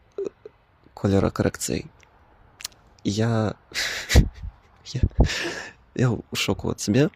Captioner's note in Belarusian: смех